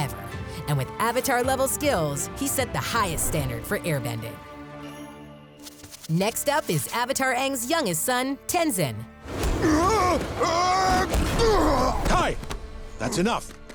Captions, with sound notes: And with Avatar level skills, he set the highest standard for airbending. Next up is Avatar Aang's youngest son, Tenzin. [grunting] Kai! That's enough.